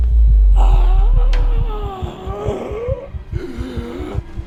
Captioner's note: Priestess groans, fighting for breath